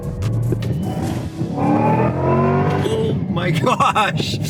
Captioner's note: car engine revving